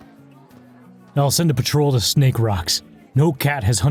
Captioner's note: confident